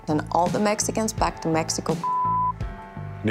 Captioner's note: beep